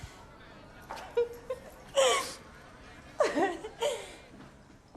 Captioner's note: laughing